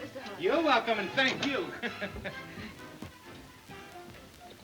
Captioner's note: laughs